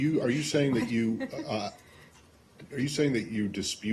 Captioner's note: laughter